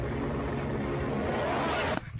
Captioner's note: monster running; monster growling; monster running